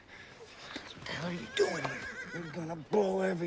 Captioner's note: whispering